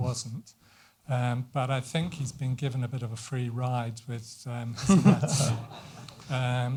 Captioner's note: laughter